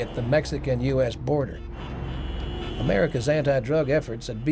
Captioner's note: cars hooting